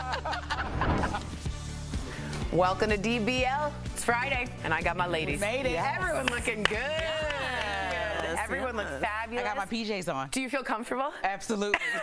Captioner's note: laughter